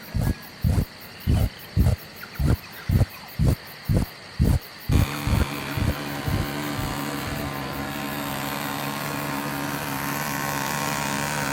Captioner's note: buzzing noise